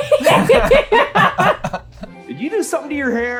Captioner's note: laughter